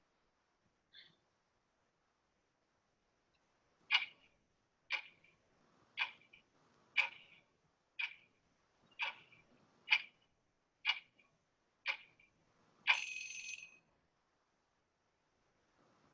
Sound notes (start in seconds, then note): 3.9 clock ticking; 12.9 alarm ringing